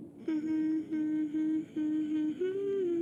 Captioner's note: humming